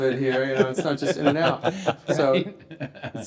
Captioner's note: everyone laughing